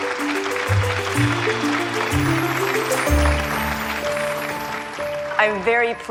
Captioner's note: audience clapping